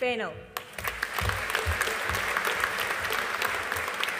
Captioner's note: audience applauding